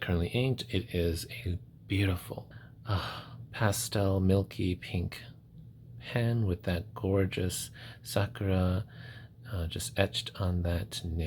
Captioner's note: satisfied sigh